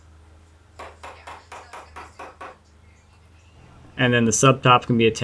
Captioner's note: hammer bangs